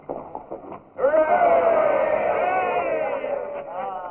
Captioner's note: men cheering